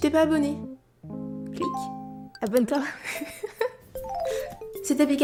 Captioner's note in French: rires